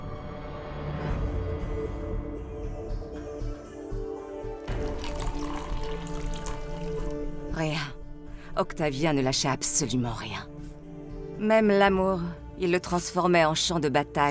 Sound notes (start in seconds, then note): 0.7 gentle mysterious music; 4.5 liquid trickling